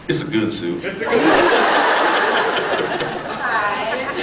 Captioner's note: laughs